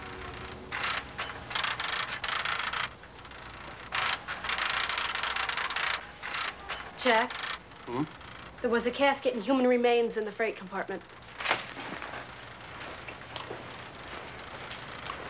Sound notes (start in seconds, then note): 0.6 printer clacking; 11.7 printer clacking